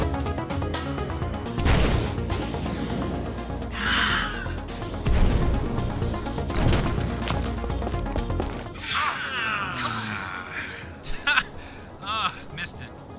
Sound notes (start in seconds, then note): 3.9 collectively gasps; 9.1 collectively cringes; 11.0 laughing